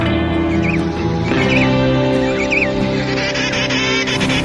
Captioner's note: birds chirping